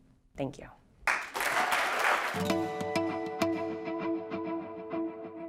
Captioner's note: applause